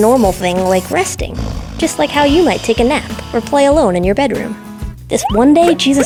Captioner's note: snoring